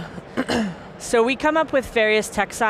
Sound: clears throat

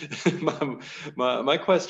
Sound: laughs

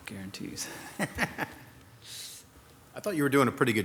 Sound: laughing

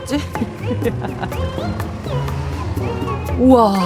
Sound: just laughing

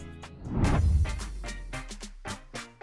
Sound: scene change swooshes

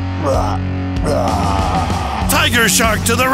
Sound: octopus groans

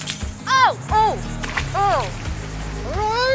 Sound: splash!

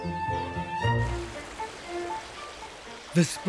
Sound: water sloshing

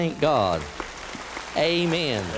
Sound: applause

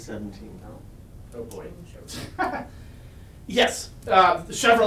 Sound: laughs

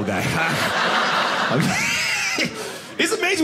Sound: audience laughing

